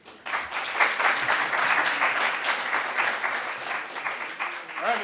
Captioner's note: audience applauding